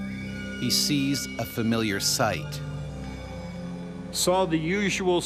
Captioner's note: voiceover